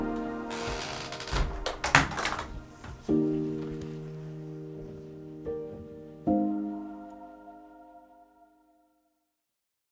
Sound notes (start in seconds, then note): 0.4 creaking